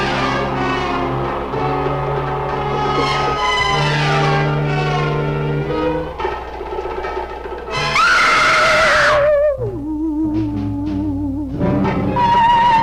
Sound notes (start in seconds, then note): 7.9 Meg screaming; 9.0 eerie mysterious music